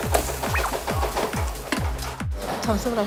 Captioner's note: simmering away